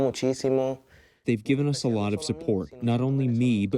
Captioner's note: through translator